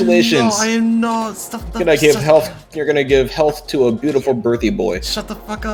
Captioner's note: stammers